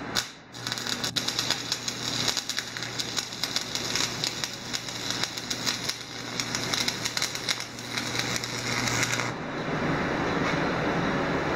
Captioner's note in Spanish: Sonido soldando